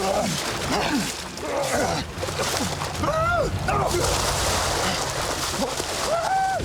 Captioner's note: fighting, grunting